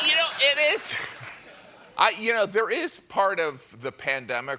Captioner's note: laughter